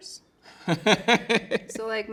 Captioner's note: laughing